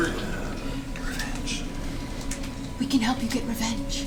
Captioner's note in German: flüstert